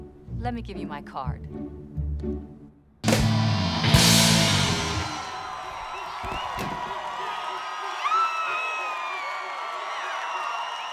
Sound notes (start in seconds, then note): 3.0 guitar strums; 3.0 fans cheering; 7.8 sara screams; 9.1 all cheering